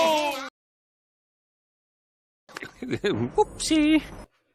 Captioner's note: chuckles